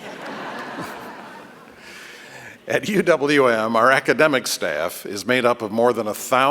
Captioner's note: laughter